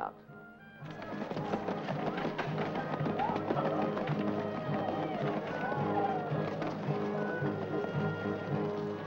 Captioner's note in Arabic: عربة تصدر صوتًا